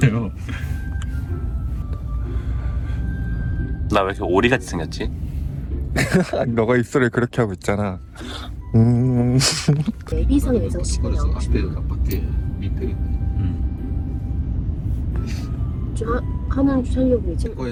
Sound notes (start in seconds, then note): 10.7 pyoing